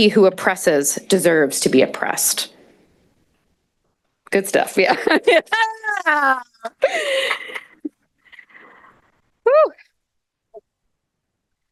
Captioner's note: laughter